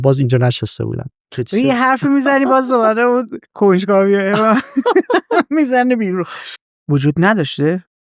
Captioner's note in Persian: خنده